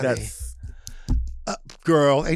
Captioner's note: Delta snaps